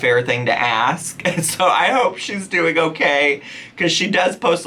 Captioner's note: chuckling